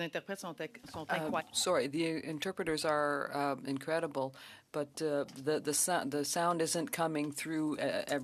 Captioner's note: speaking French